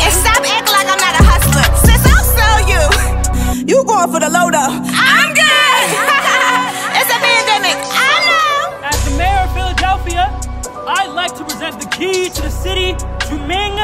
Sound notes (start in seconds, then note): 5.4 laughs